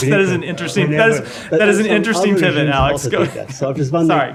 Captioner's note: laughter